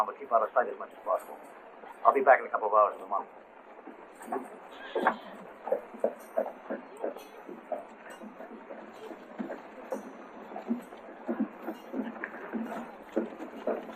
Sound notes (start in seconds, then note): 6.1 bystanders chattering; 6.1 horses hooves